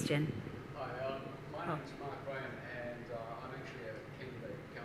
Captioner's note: man speaks off mic